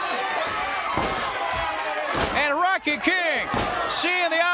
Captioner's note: crowd cheering